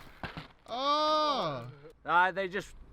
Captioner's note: cameraman cheering